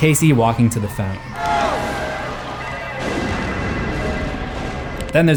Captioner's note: phone ringing